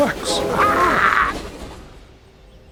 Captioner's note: horn blares